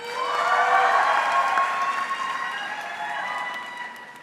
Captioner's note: audience cheering